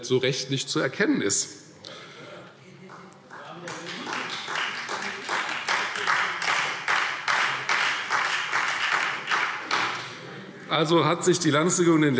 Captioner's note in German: Beifall Freie Demokraten - Zuruf Freie Demokraten: Hört, hört!